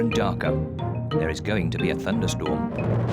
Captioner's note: thunder rumbles